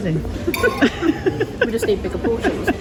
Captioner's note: both laughing